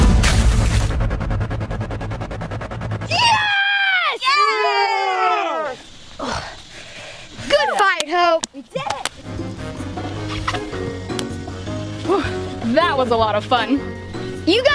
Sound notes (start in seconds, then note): 0.3 splashing; 4.9 cheering